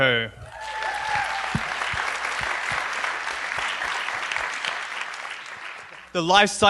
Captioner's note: applause